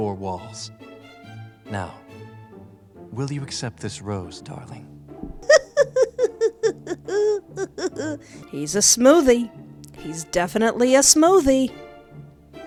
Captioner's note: laughter